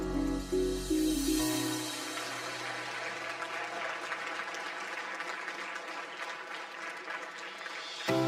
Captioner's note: audience applause